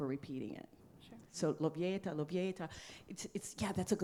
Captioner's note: speaks in foreign language